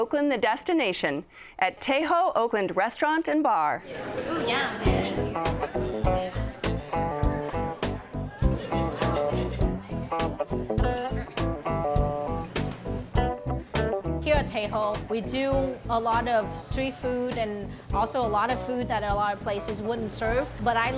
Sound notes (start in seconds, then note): 5.4 customers chatting; 5.4 upbeat guitar music